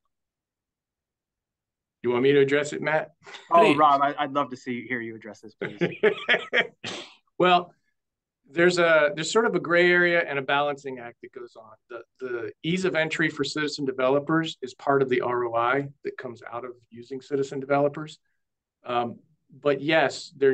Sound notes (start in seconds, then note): 5.6 laughter